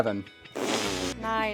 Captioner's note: loud fart